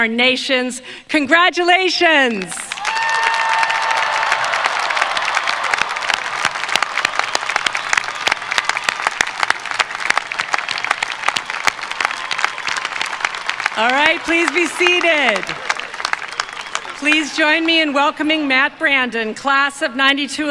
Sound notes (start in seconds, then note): 4.0 cheers and applause